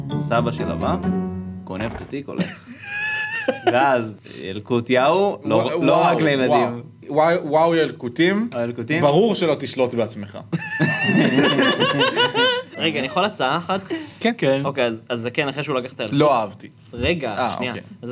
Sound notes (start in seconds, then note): 2.4 snickers; 10.6 laughs